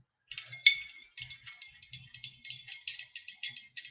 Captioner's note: stirring